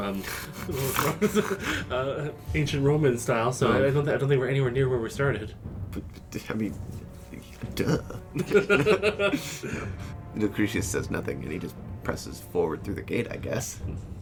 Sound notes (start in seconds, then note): 0.3 snort-laughs; 0.4 struggling through a giggle; 6.5 sputters; 8.3 laughter